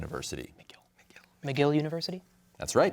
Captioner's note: whispering